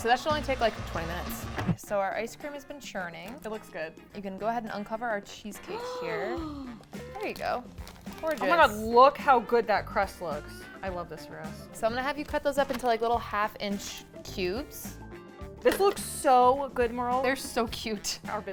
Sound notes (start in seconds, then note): 5.7 gasping